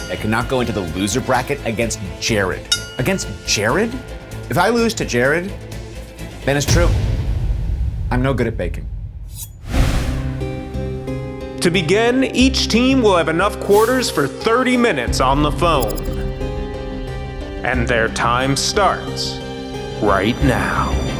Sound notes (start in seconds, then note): 9.3 screen whooshes; 9.3 knives clang; 10.2 brooding music; 16.0 static crackles